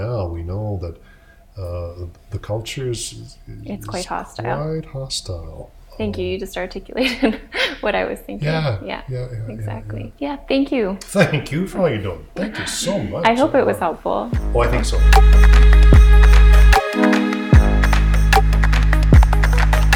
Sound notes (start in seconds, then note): 7.0 laughs; 17.1 upbeat instrumental